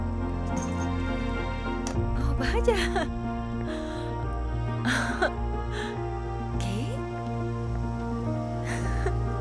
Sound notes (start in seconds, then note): 4.8 Resopla